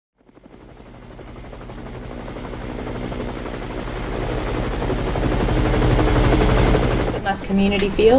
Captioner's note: helicopter